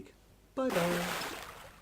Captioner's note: big Splash!